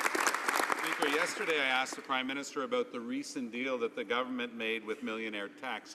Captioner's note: some Applause